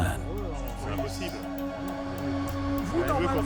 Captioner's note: speaking French